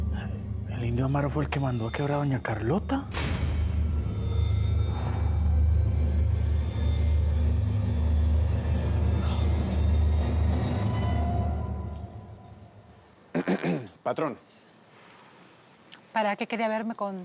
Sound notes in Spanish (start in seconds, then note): 13.3 carraspea